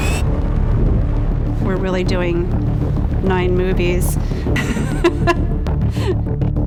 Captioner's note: laughs